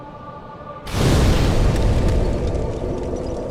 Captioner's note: sparks of flames fly out